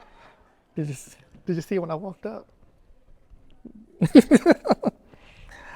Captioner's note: chuckling